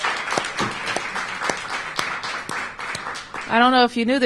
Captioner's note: applause